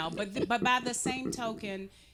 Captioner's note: giggling